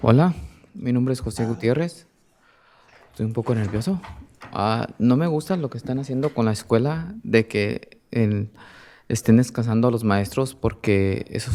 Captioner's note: speaking in spanish